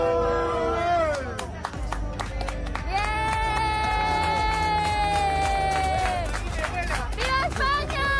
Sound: applause

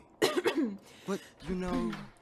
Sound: Regulus coughs

